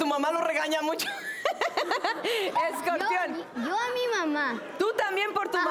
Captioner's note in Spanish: Risas